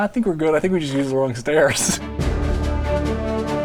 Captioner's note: laughs; exciting music